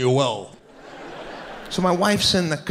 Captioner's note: audience laughing